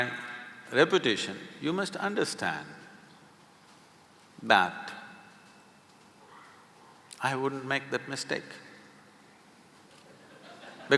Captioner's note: few laugh